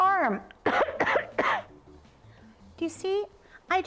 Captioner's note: coughs